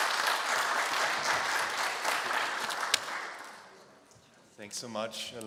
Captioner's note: applause